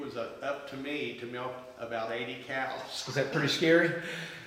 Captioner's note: laughs